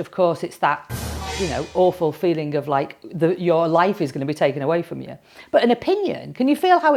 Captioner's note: bang